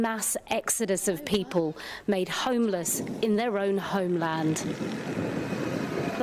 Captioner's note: speaking non-english